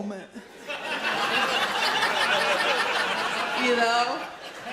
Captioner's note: audience laughs